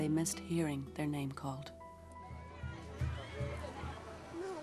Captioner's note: foreign language